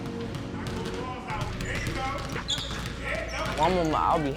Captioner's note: coach cheering